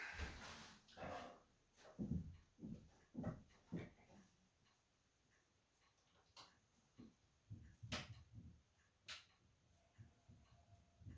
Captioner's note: footsteps from above again. CD in player